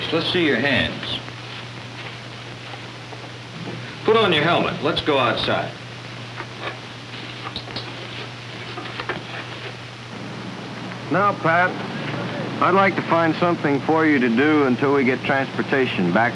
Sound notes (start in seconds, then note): 7.0 footsteps